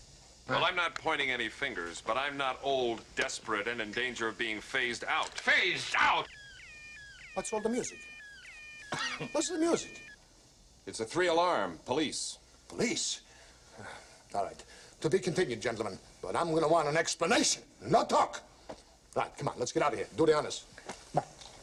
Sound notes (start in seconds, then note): 5.5 electronic humming; 10.2 humming stops